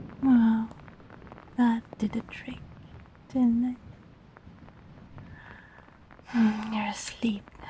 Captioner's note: speaking softly to not wake listener